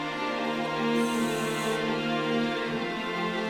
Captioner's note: air hissing